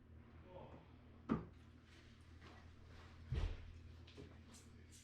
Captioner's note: footsteps pattering